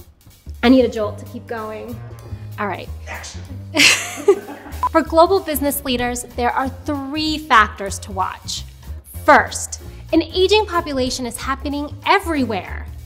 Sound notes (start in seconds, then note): 3.7 laughing